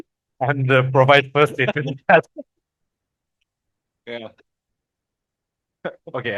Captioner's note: laughters; laughters